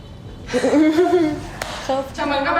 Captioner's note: awkwardly laughing